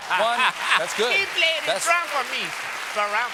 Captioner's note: applause